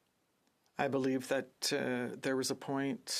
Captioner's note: speaking FRENCH